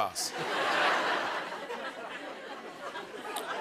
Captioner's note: laughter